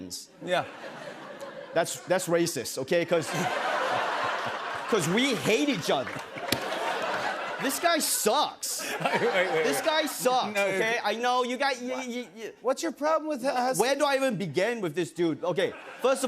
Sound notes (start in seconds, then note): 6.1 laughter